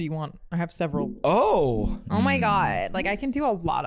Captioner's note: valley-girl accent